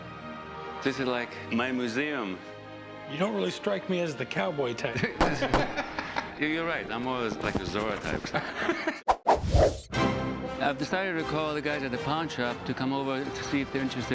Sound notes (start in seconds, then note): 5.2 gunshots